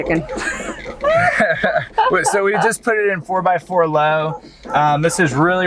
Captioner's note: laughs